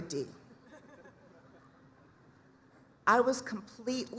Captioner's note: laughter